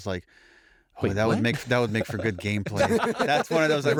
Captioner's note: laughter